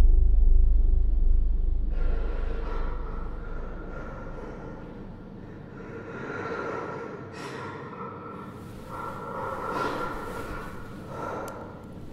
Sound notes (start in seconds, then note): 1.9 distorted breathing with echo; 9.1 shifting around in bed; 11.9 breathing sound stops